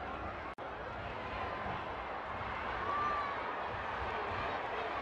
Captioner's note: crowd chanting